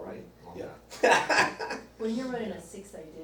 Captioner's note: laughs